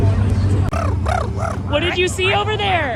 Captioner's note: imitates crow cawing